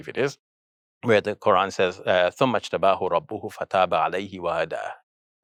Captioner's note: foreign language